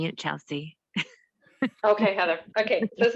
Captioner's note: laughs